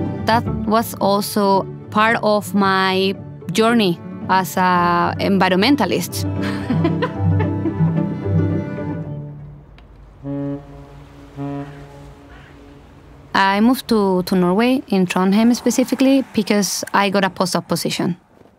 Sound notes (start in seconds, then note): 0.0 bright music; 6.4 laughs; 6.9 bright music; 11.2 water lightly gushing